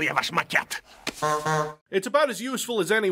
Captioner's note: honk honk